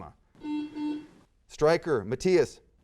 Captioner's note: buzzer sounds